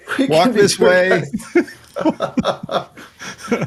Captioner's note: laughing